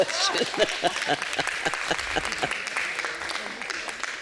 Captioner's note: applause